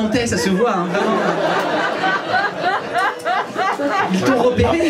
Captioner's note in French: rires public